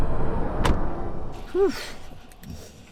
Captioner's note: door slamming